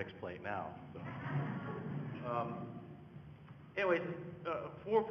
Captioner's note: audience laughing